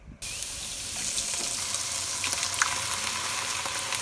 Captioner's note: pan sizzling